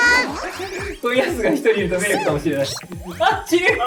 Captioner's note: laughs